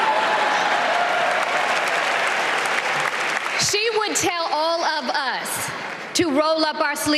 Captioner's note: applause